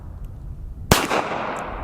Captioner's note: pistol fires